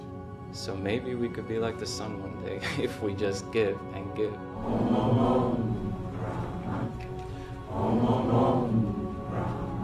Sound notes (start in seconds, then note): 3.9 chanting